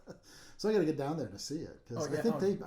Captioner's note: laughing